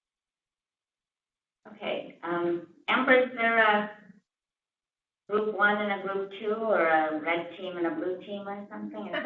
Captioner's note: laugh